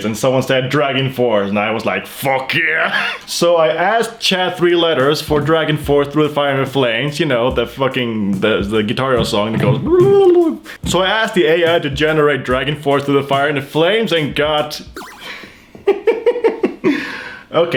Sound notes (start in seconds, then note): 10.2 babbles; 17.0 laughs